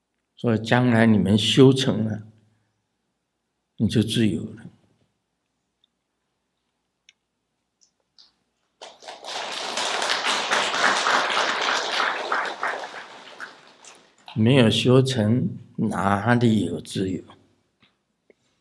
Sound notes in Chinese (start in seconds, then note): 8.8 眾鼓掌